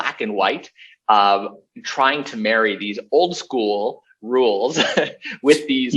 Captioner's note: laughs